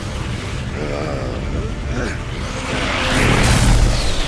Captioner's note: grunting; arcane flare